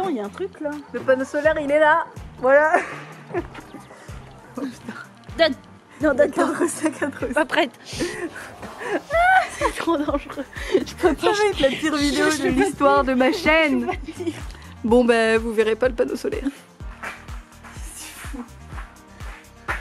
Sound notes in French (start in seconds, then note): 8.8 Rires